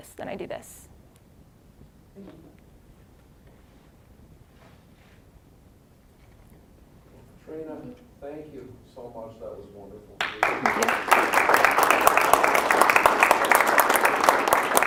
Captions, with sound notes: "then I do this." >> Trina, thank you so much. That was wonderful. (applause)